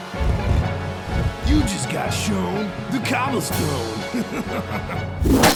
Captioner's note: laughs